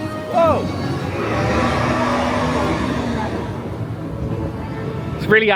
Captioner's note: snow wraith roars